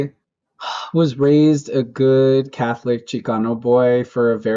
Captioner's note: sighs